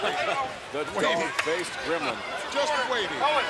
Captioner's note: laughs